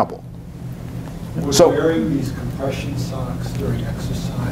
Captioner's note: voiceover